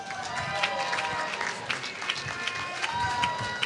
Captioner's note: applause